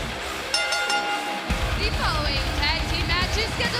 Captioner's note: bell ringing